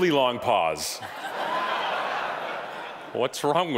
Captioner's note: audience laughing